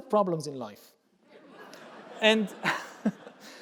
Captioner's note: audience laughing